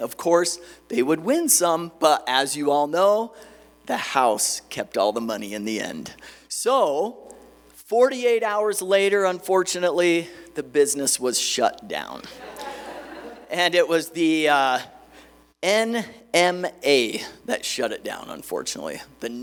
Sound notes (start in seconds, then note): 12.2 laughter